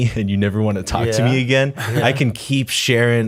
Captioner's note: chuckle